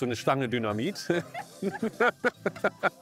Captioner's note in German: Lachen